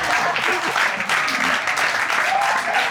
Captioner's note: audience applauding